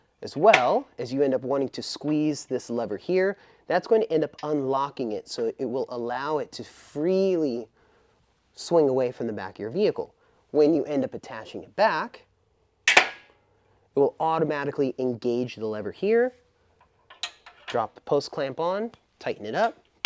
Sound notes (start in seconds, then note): 12.9 metal clanking